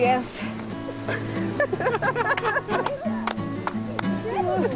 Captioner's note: chuckling